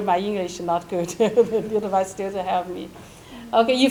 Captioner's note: chuckles